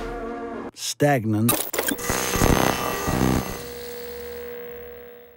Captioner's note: airwave static hums